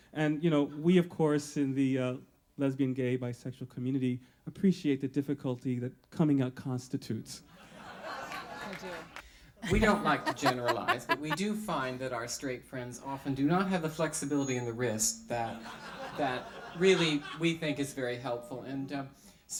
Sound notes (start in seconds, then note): 9.6 audience laughter; 9.6 host laughs